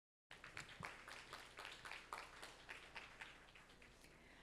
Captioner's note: audience applauding